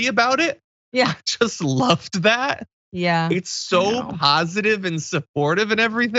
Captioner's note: laugh